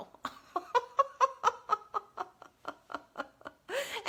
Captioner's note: laughs